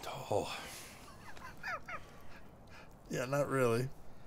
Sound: laughing

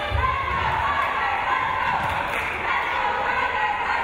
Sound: crowd

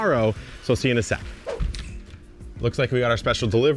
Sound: air whooshes

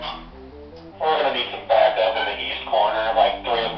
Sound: on Radio

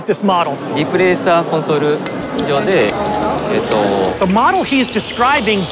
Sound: speaking Japanese

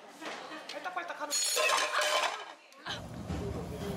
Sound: crashing

